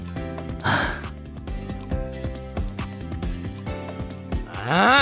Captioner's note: sigh